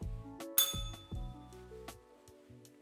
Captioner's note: bell rings